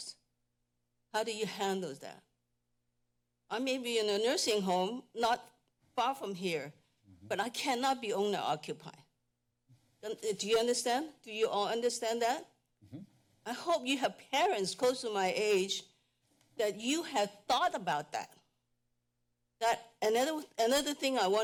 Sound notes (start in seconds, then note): 0.2 pause; 2.3 pause; 9.1 pause; 18.4 pause